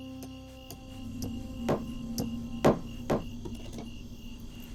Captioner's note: hammering